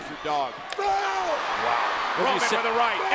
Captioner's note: Roman screams